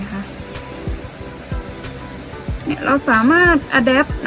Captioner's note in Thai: เสียงพ่นสเปรย์